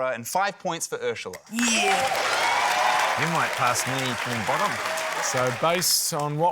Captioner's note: cheering, applause